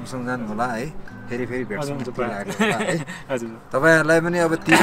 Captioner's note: laughter